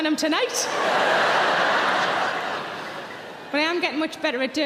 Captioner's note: audience laughing